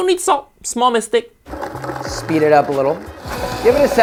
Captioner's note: blender rumbling